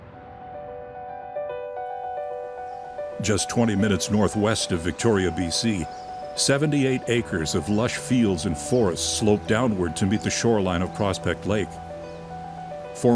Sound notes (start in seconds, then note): 0.3 piano music; 2.2 birds chirping